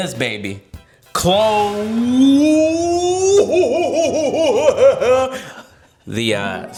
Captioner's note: laughs maniacally